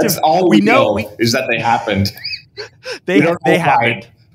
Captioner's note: laughs